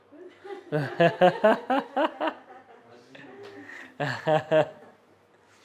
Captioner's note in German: lacht